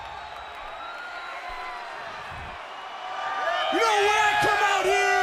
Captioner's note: crowd cheering